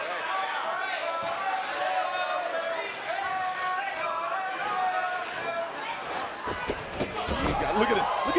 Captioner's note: crowd chatter